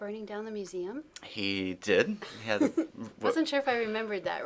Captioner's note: laughter